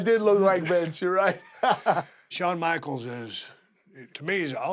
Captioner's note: laugh